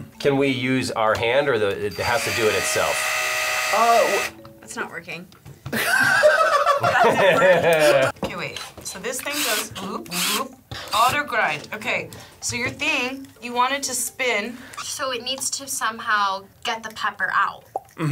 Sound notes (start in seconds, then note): 2.0 drill whirring; 5.7 people laughing